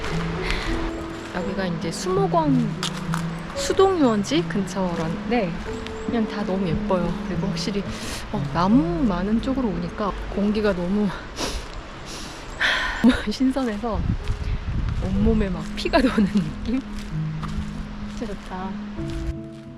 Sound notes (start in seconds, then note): 12.1 inhale